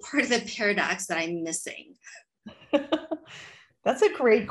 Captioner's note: laughter